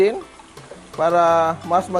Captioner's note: sizzle